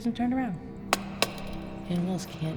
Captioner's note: torch taps